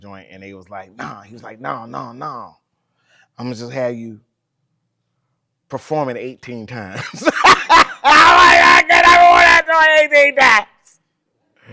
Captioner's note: laughs while repeating sentence